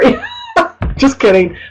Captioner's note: laughing